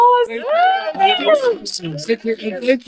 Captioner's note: applause